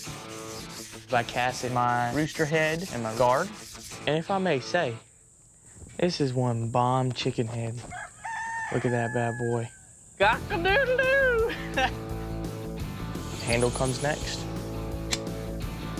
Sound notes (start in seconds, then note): 7.8 rooster crows